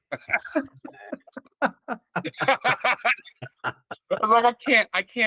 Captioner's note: laughing